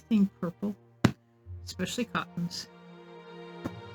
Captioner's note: slapping fabric; slapping again